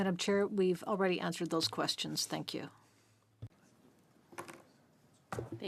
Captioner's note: speaking French